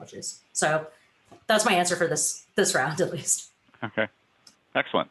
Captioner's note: giggles